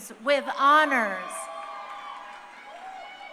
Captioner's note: crowd cheering